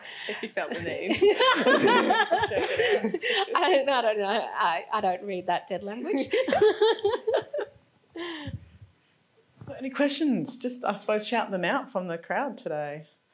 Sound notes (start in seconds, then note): 0.7 all laughing; 7.2 laughs